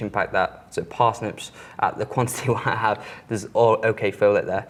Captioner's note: giggles